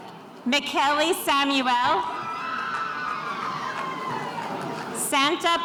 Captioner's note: spectators cheering